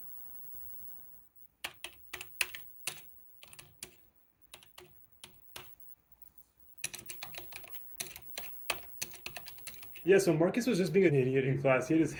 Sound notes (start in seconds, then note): 3.4 keyboard clicking